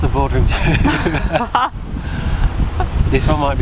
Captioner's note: both Laugh